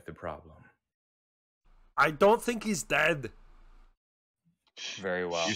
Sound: worriedly

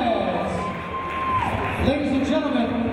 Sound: cheering

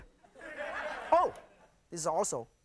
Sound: laughter

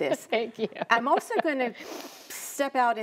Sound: laughs

